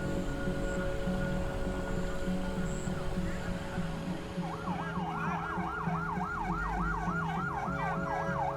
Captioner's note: siren wailing